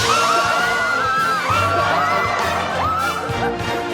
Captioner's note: screaming